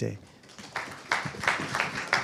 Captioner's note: applause